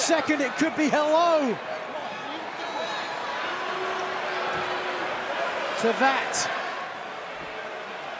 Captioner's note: crowd cheering